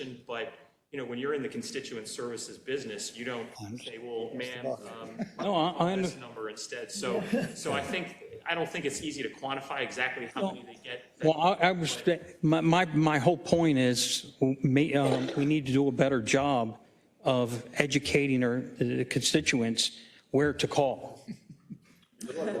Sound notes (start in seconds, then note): 4.4 laugh